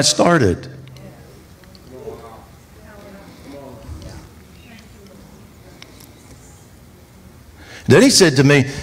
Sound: congregation reacts

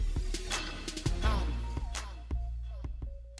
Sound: echoes

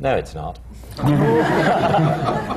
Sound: laughter

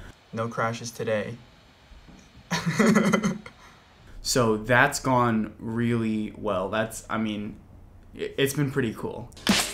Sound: laugh

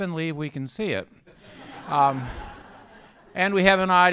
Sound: laughter

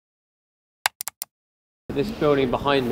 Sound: computer mouse clicking

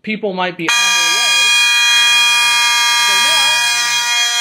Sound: constant horn and high-pitched electronic sounder

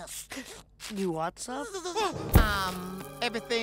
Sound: Mr. McFly buzzes; gasps

